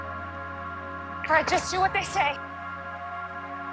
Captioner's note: voiceover